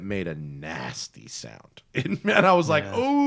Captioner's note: laughter